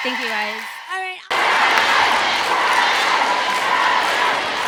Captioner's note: audience cheers